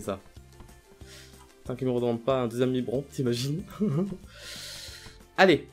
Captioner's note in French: rires